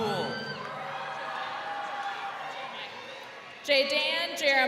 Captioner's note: crowd cheering